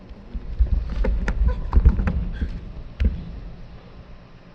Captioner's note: body thumping